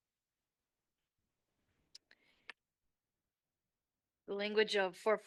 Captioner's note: silence